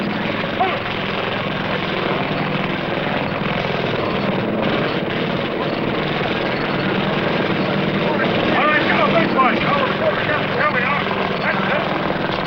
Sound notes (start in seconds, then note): 1.5 engine Whirring